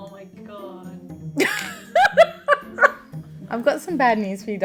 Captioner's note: laughs